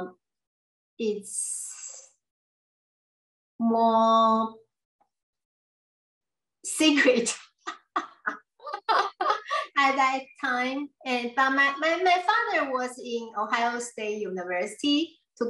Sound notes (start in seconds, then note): 3.1 laughs